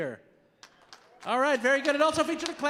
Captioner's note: audience applauding